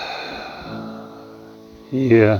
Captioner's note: sighs